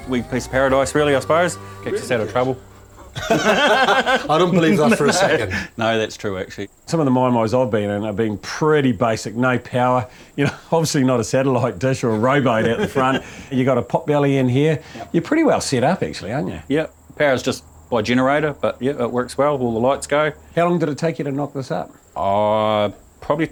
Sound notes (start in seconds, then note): 3.1 laughter; 10.4 chuckles; 12.1 laughter